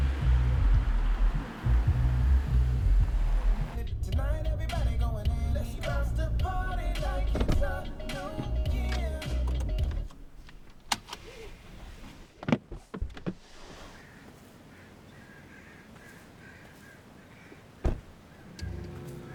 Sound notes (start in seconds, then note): 0.0 car humming; 0.0 rap music; 11.4 seatbelt clicks; 13.9 crows cawing; 17.8 door thuds